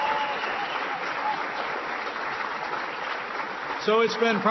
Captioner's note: applause